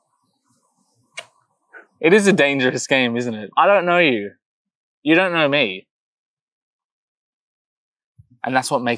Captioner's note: blows kiss